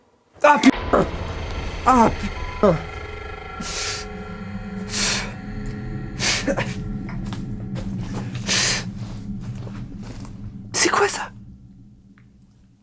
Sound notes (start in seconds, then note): 3.8 tries to catch his breath, coughs…